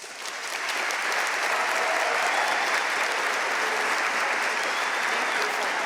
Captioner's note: audience cheering and applauding